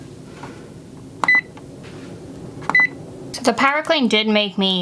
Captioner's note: printer buttons beeping